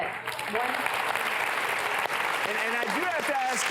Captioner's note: applause